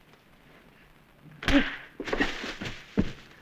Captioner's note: thud